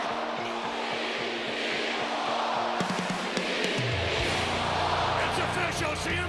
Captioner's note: crowd cheering